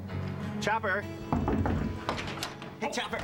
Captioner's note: knock on door